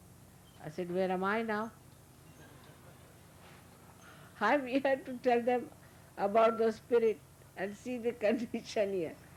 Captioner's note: Shri Mataji laughing & laughter